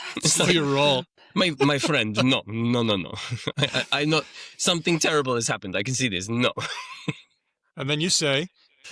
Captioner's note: laughs